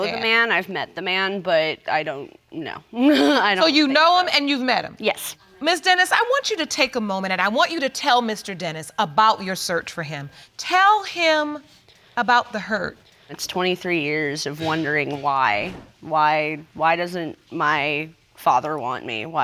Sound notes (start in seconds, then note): 3.0 chuckles